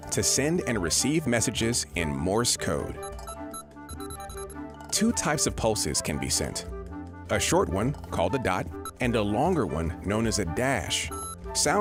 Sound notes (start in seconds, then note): 3.8 beeping